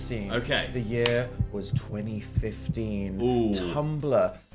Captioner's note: heartbeat thudding